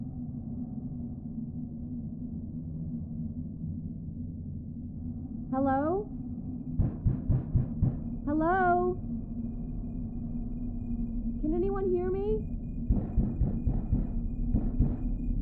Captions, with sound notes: [MUFFLED FEMALE VOICE]: Hello? [KNOCKING] [MUFFLED FEMALE VOICE]: Hello? [MUFFLED FEMALE VOICE] Can anyone hear me? [KNOCKING]